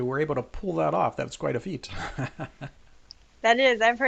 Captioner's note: laughs